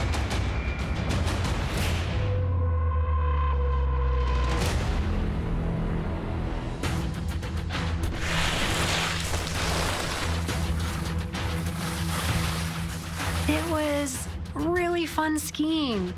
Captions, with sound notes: (dramatic thumping music) (snow swooshing) - It was really fun skiing.